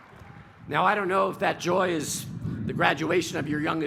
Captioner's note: cheers and applause